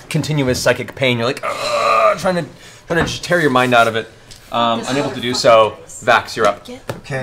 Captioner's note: groans